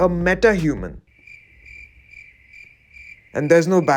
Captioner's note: crickets chirping